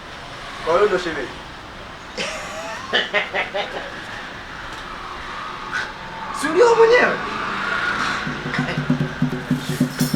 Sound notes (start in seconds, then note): 2.2 laughs